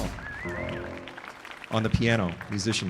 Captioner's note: audience applauding